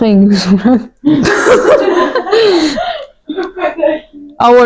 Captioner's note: laugh